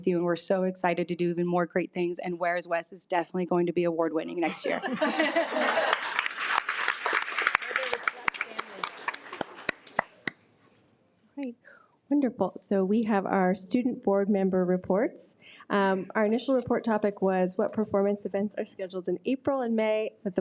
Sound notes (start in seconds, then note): 4.6 attendees laugh and applaud